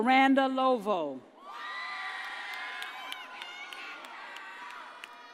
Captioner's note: audience cheers